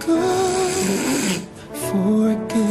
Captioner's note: leah snores